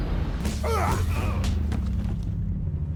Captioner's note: men grunting